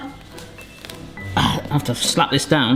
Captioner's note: grunts